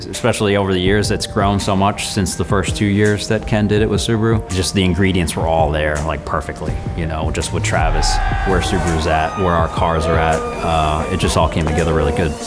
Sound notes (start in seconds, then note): 7.3 guys cheering